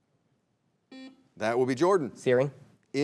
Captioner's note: buzzer beeps